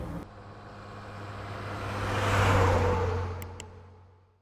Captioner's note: engine humming